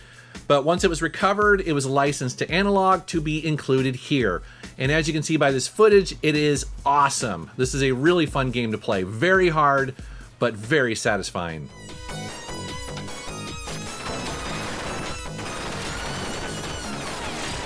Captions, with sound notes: But once it was recovered it was licensed to Analogue to be included here. And as you can see by this footage, it is awesome. This is a really fun game to play. Very hard. But very satisfying. (upbeat techno music) (shooting)